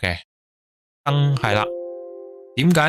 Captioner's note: system sound